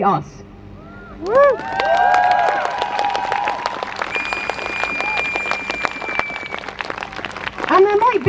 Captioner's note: crowd Cheers